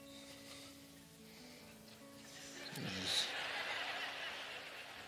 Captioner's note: laughter